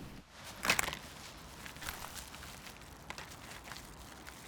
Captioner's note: ice rattling